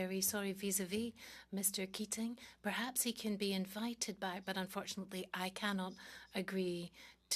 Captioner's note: speaking French